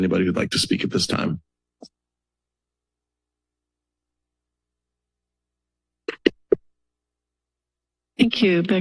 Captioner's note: silence